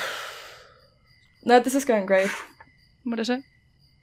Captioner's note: sighs deeply